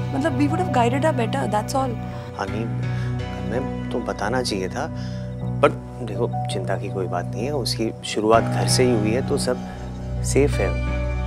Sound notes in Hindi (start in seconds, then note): none